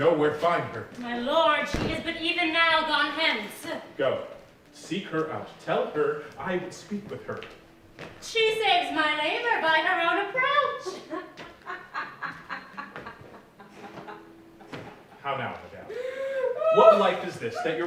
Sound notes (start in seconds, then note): 10.8 laughs